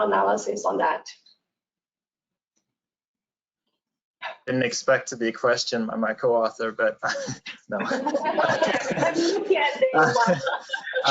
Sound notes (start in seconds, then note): 7.0 laughter; 7.0 laughs